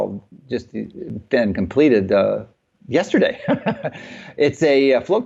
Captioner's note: chuckles